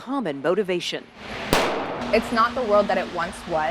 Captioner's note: gun firing